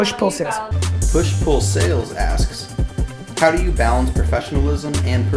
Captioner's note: voiceover